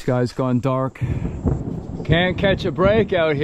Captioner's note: thunder rumbling